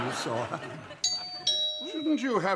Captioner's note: doorbell